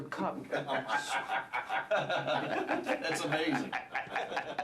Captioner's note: laughter